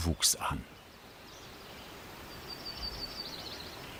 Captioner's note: birds chirping